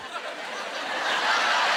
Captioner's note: laughing